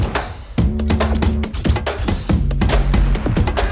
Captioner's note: gun blasts; bullets popping; upbeat instrumental music continues